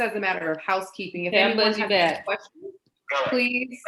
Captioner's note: woman murmurs